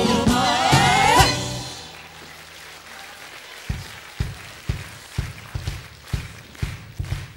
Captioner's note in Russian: Аплодисменты. Крики: Браво!